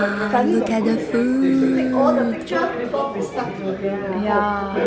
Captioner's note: conversations going on in the background